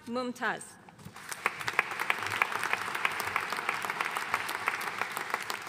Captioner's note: audience applauding